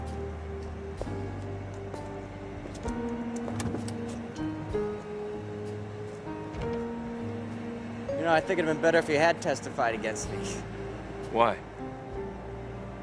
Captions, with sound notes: (footsteps patter) (door rattles) You know, I think it'd been better if you had testified against me. - Why?